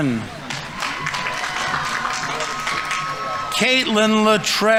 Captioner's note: audience members cheering; audience applauding